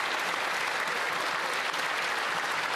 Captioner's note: some Applause